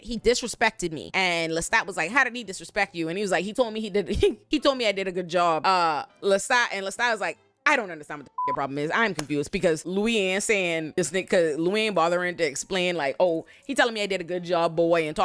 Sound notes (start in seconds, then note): 8.3 beep